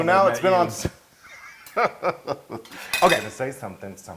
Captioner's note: laugh